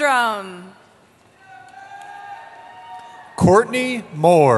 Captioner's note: cheering